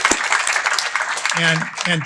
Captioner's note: applause